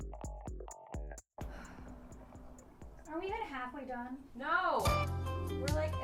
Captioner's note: sigh